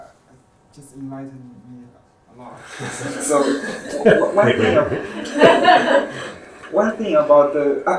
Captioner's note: audience chuckles